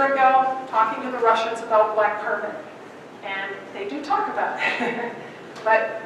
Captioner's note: laughing